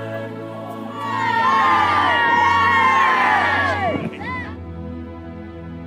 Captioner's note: children screaming: Burn.... Burn